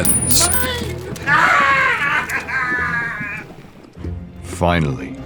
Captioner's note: laughs